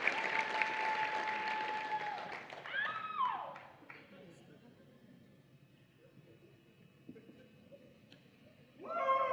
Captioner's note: applause and Cheering